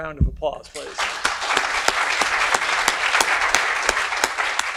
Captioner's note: audience applauds